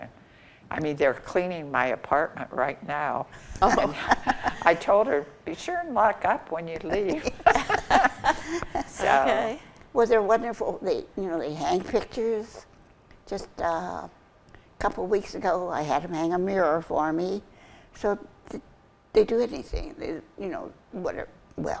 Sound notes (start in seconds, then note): 7.1 group laughs